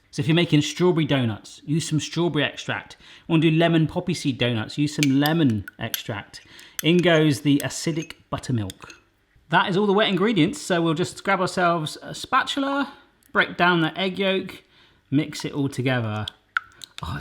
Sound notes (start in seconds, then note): none